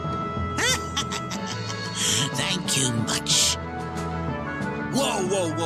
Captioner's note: cackles